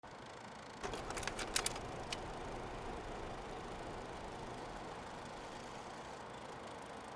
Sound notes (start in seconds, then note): 0.8 film projector clicks